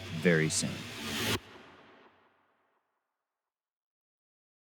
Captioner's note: air whooshing